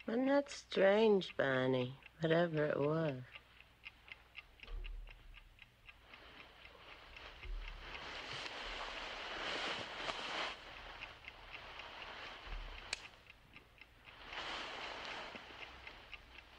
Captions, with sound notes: Wasn't that strange, Barney, whatever it was? (clock ticking)